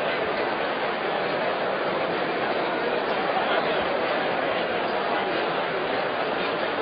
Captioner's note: general crowd noise